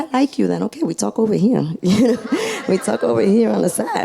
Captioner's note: laughs